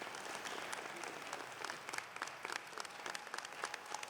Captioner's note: applause